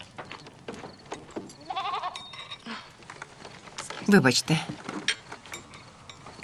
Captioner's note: sheep bleating